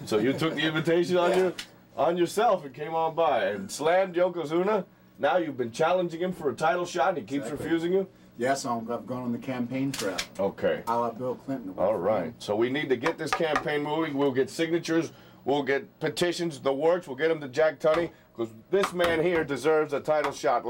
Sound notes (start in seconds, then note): none